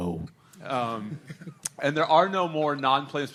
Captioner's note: panelists laughing